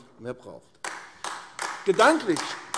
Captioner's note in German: Beifall AfD